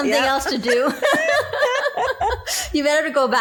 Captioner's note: both laughing